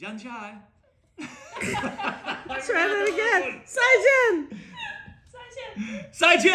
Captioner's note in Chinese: 笑聲